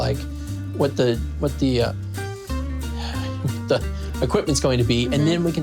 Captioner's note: sighs